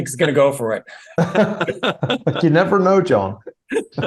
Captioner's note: laugh